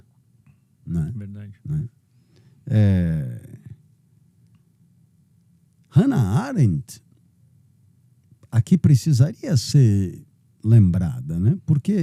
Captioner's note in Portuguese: pigarreando